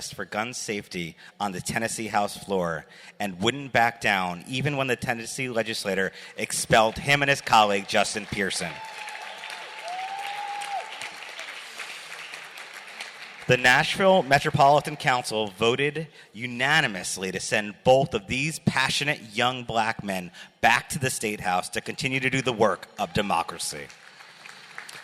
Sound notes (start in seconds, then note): 9.1 cheers, applause